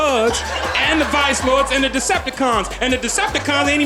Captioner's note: audience laughing